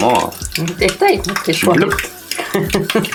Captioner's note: mimimicing spinning sounds